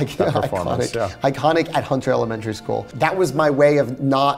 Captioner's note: laughs